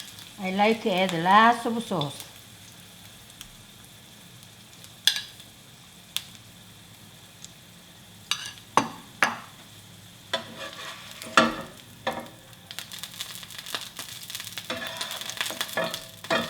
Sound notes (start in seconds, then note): 9.1 bowl clunks; 13.5 tofu sizzling